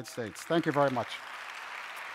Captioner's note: audience applauses